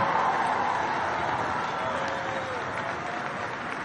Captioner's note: applause